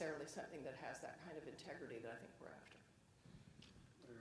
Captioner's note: voice fades